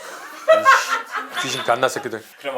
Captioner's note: giggle